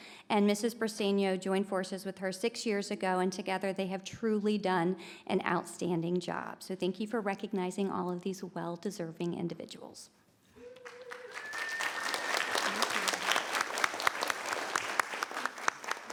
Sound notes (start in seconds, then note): 10.6 people cheering; 12.9 people clapping